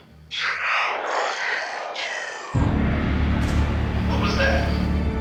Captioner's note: demonic voice